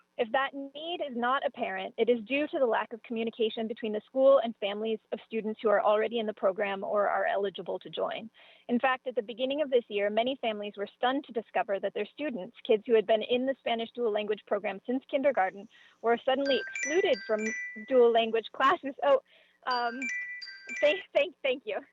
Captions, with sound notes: If that need is not apparent it is due to the lack of communication between the school and families of students who are already in the program or are eligible to join. In fact at the beginning of this year many families were stunned to discover that their students kids who had been in the Spanish dual-language program since kindergarten were suddenly [chime] excluded from dual-language classes. Oh. Thank thank thank you.